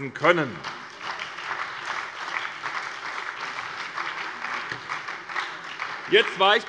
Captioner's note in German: Beifall bei der SPD